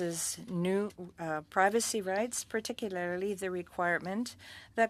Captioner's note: speaking French